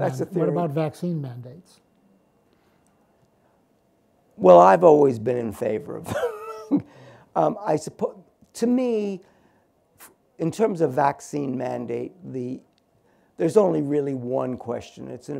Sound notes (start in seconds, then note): 6.1 laughs